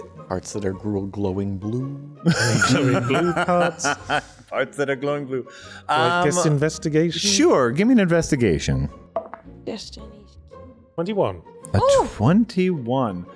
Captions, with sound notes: -Parts that are glowing blue. -Blue corpse. [laughter] -parts that are glowing blue? -Let's investigate. -Sure. Give me an investigation. 21. -A 21.